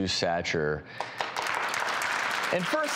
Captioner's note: audience clapping